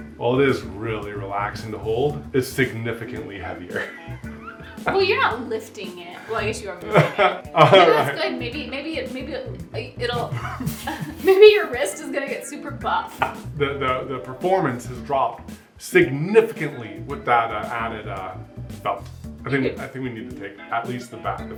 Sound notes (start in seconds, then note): 3.7 laughs; 10.1 stammers; 10.3 laughing